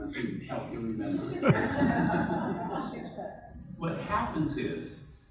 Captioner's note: audience laughs